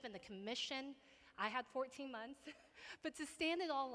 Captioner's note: laughs